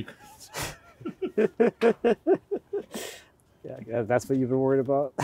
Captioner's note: both laughing